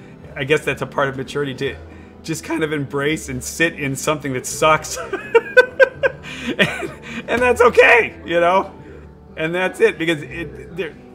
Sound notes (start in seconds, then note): 4.9 laughing